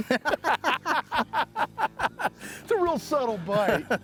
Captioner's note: both laughing